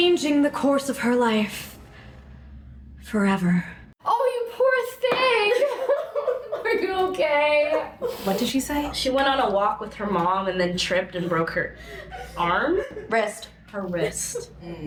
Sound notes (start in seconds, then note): 6.0 sobbing